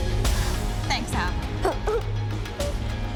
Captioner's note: sobs